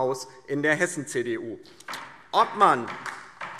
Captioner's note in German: Beifall DIE LINKE